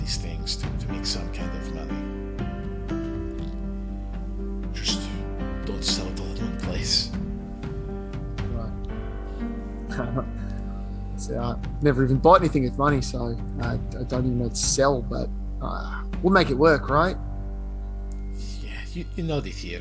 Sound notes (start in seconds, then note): 10.7 laugh